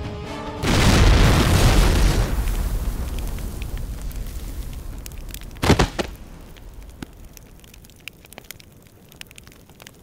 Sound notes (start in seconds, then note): 0.6 Explosion sound; 5.6 Thuds on ground